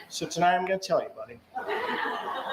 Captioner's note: laughter